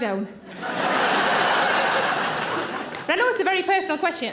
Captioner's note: audience laughing